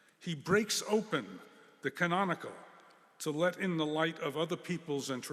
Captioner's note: none